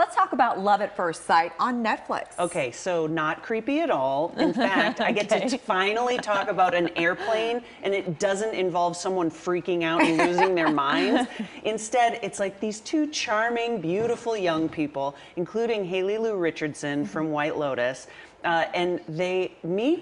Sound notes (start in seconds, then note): 10.0 laughter